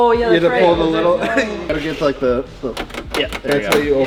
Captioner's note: clicks door